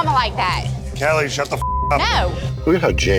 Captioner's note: beep